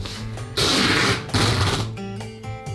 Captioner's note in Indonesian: suara selotip